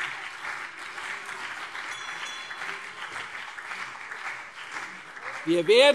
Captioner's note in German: Beifall CDU und BÜNDNIS 90/DIE GRÜNEN